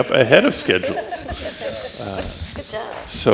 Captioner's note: laughing